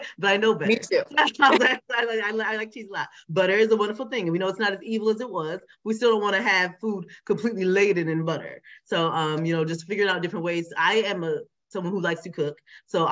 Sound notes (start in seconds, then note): 1.2 laughs